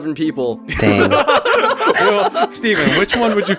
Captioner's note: laughing